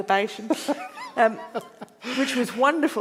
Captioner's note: laughing